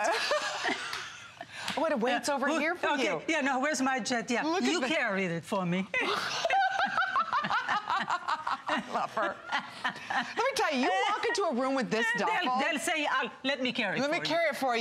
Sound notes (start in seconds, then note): 6.0 laughter